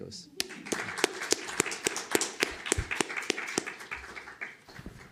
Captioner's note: applause